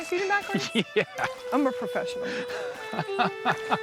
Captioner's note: laughs